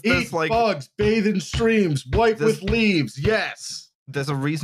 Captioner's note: thumps rhythmically on desk